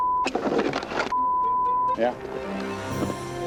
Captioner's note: beep